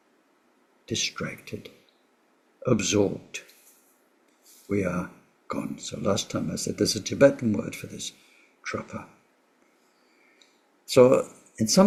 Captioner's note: tibetan